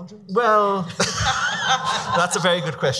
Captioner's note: laughing